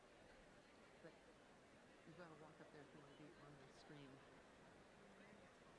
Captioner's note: graduates chattering indistinctly